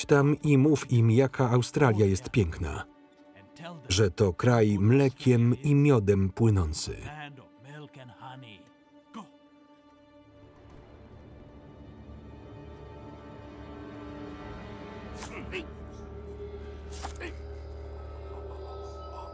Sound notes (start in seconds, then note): 10.3 suspenseful music; 16.9 grunting